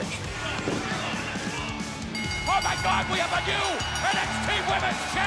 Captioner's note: bell ringing